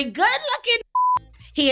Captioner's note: beep